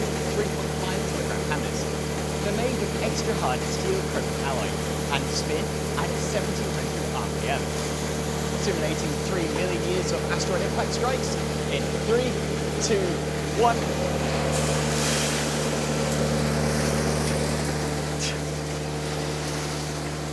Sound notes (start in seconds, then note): 14.7 mill whirring continues